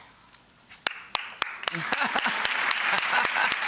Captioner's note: clapping